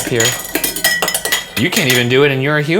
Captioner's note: lid clatters